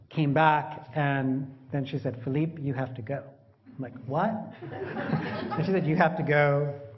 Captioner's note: laughter; 笑聲